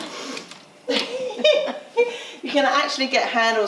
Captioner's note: laughing